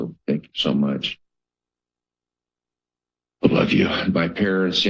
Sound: pause

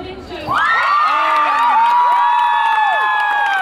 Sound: crowd cheering

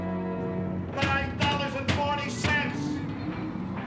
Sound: banging

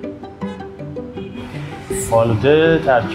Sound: bright music; vehicles hooting; speaking in foreign language

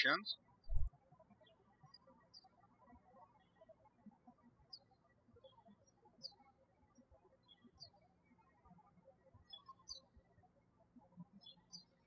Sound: birds chirping

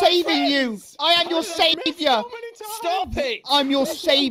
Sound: Joel and Scar screaming

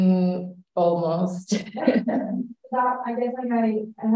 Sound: laughs

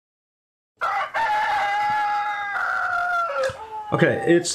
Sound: rooster crowing

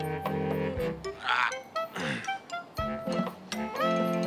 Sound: grunts

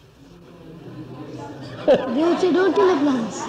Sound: laughs

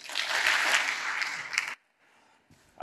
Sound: applause

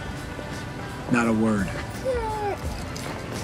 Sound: whines

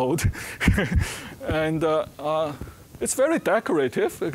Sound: laughing

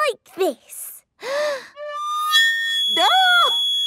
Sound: off-key; inhaling deeply

